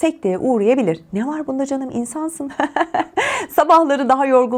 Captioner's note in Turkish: kahkaha